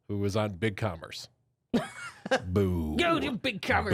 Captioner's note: softly laughing